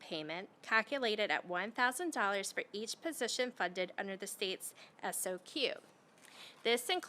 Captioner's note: none